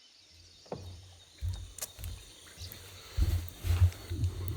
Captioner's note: footsteps pounding